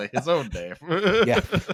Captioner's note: laughter